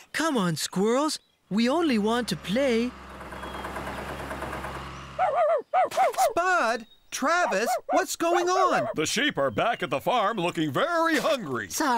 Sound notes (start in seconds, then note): 3.5 engines Running; 5.2 barking